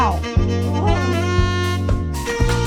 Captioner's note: muffled Groans